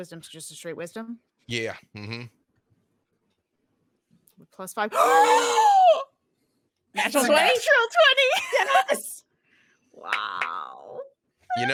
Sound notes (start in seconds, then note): 4.9 gasps